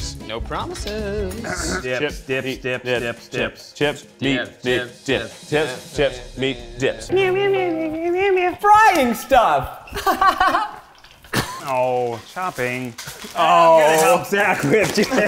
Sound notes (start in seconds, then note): 7.1 singing; 9.9 laughing; 14.5 laughing